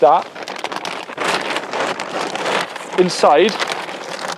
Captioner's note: bag shuffling